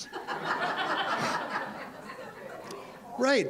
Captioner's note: audience laughs